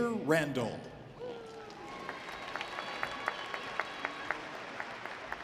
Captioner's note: audience applauding